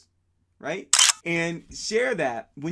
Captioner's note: camera clicking